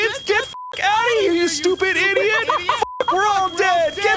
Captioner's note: beep